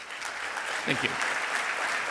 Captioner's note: audience clapping